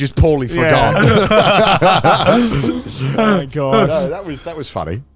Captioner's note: all laughing